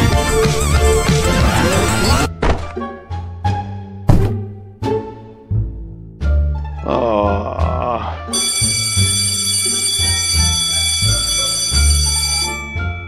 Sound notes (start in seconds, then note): 6.7 groan; 8.3 school bell